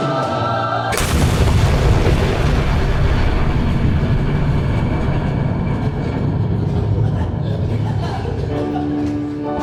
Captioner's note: shouted; gigantic, thunderous explosion